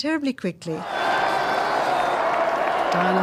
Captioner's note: crowd cheering